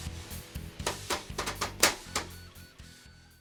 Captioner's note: tappity tap tap